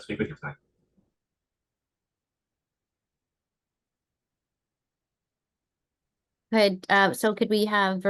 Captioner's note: silence